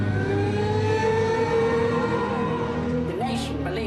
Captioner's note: siren wails